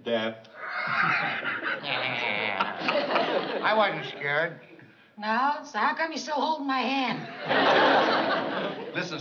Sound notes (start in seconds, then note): 0.5 laughs; 0.6 imitates laugh